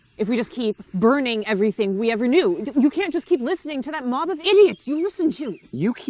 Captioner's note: none